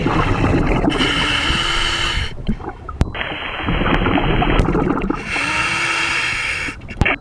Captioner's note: water burbling; regulator hissing